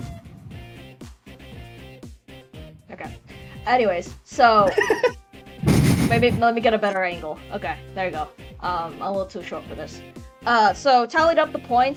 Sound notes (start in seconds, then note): 5.6 laughs; 5.6 chuckles™